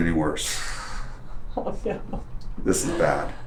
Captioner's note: laughs